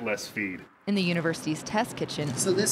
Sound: voiceover

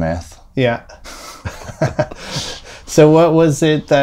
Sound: laughter

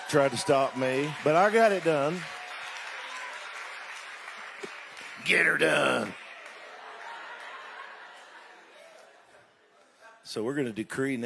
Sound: crowd laughs

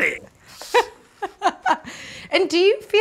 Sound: laughing

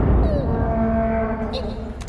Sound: creak

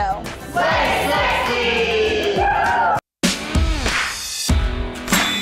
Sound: cheering

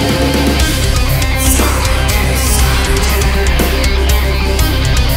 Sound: whispers

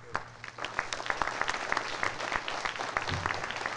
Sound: applause

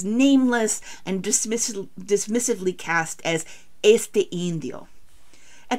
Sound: spanish

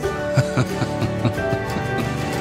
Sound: laughing

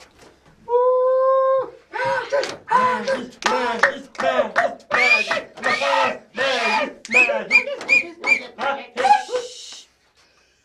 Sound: fake celebrating sound

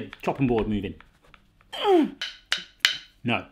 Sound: grunting

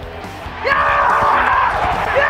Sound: cheering

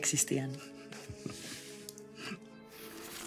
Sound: laughing

